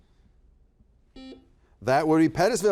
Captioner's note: buzzer buzzes